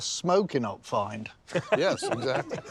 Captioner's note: laughter